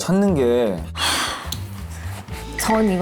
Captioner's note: sighs